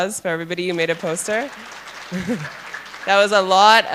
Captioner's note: applause